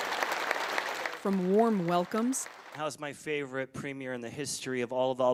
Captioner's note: applause